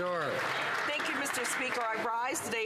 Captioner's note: some Applause